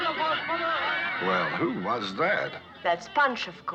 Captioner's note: shouting